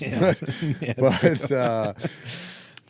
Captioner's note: laughing